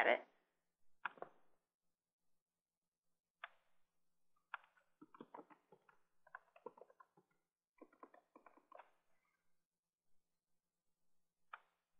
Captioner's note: typing Sounds